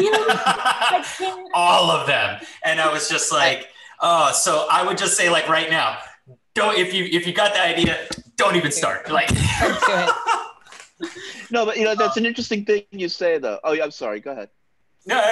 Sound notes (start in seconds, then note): 0.0 laughs; 9.2 laughs